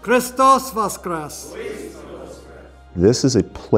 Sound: priest chanting in Ukrainian

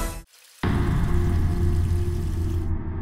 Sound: water flows

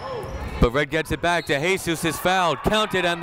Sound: whistle blowing

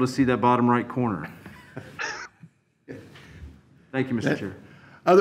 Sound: chuckles

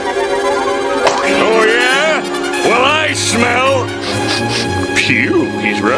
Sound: sniffing

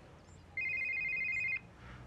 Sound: mobile phone rings

